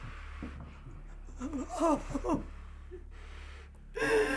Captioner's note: Sue whimpers; Sue sobbing